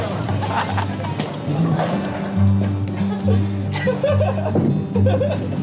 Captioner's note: laughter over music